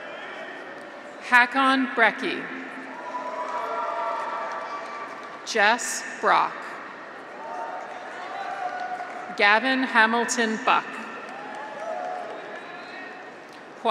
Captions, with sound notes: Haakon Brekke. (graduates cheer) (audience applauds) Jess Brock. (graduates cheer) (audience applauds) Gavin Hamilton Buck. (graduates cheer) (audience applauds)